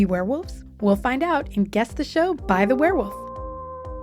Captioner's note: werewolf howl